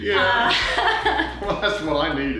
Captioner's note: laughing